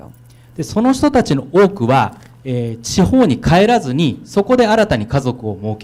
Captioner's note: speaking foreign language